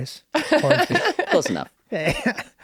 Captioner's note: laughing